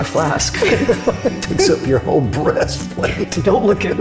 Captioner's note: laughs